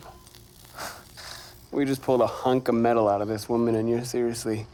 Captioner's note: scoffs